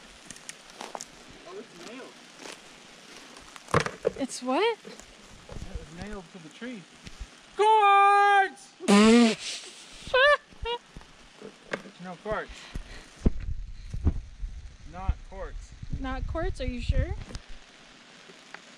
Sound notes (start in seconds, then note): 7.7 yelling; 10.0 laughs